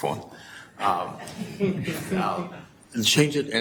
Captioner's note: chuckling